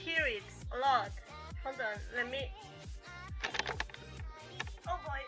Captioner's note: Crunch